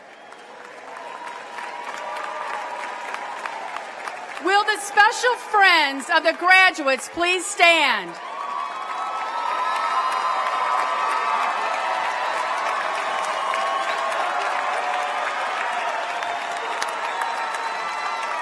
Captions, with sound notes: >>: Will the grandparents and other family members please stand. >>: [Applause.] >>: Will the special friends of the graduates please stand. >>: [Applause.] >>: